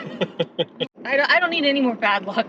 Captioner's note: laughing